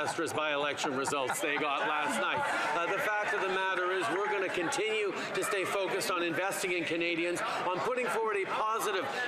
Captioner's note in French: voix de l'interprète